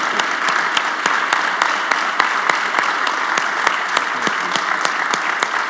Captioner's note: audience applauding